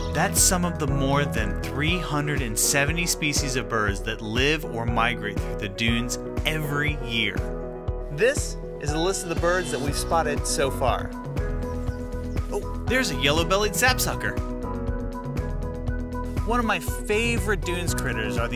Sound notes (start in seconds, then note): 10.3 birds chirping